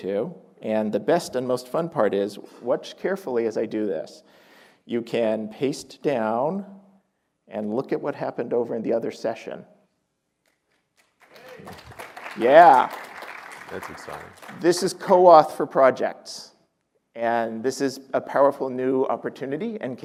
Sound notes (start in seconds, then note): 11.0 applause